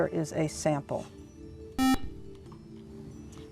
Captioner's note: buzzer